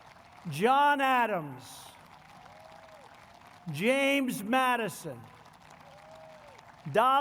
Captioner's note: applause; applause